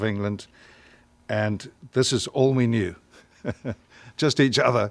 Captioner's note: chuckles